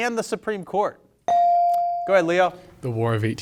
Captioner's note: bell sounding